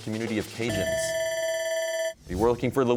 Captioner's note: bell ringing